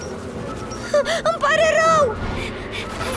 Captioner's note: whimpers; panting